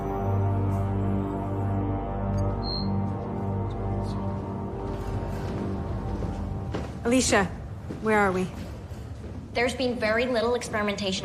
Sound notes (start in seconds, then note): 3.0 muttering